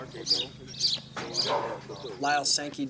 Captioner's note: birds chirping